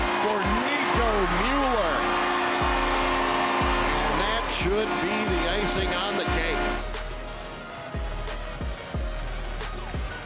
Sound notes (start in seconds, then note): 2.5 audience cheering; 7.1 funky upbeat music